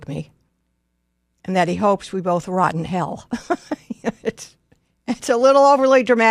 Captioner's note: laughs